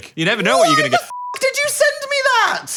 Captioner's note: beep